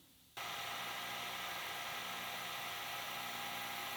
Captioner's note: lathe chattering